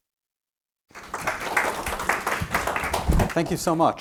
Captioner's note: audience applauding